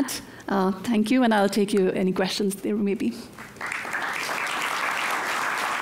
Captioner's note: applause